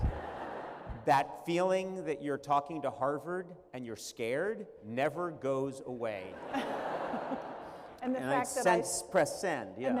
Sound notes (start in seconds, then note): 0.0 laughter; 6.3 laughter